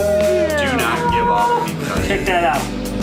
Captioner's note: male Voice